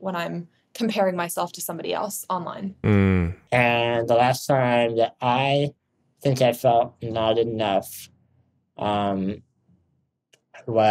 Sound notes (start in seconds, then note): none